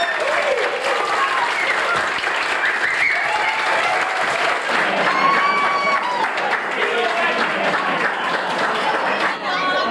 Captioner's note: crowd applause